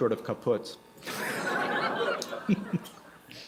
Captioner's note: laughter